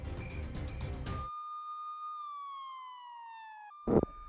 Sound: police sirens

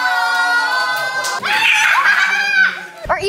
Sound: screams

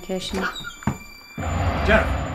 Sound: door opens

